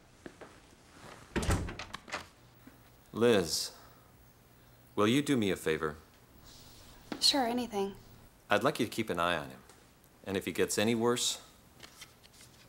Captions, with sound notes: [door closes] Liz, will you do me a favor? Sure. Anything. I'd like you to keep an eye on him. And if he gets any worse